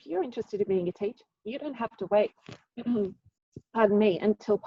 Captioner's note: clears throat